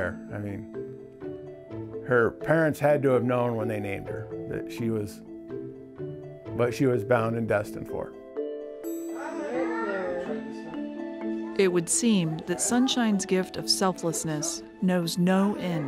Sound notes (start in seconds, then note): 9.1 children speaking